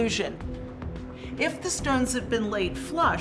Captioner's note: none